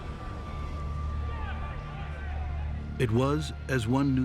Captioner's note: distant shouting